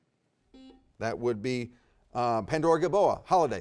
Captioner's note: bell dings